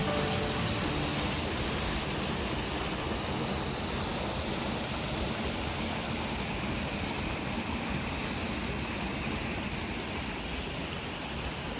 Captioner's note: waterfall sounds